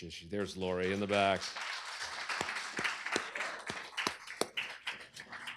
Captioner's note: applause